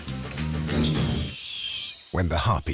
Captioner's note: eagle screeches